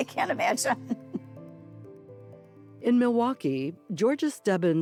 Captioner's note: chuckling